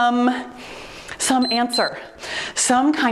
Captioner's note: timer beeps